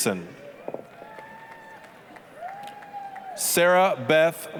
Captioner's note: applause, cheering